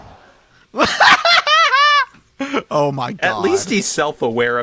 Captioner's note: laughs